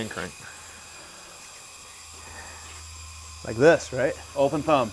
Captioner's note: machine buzzes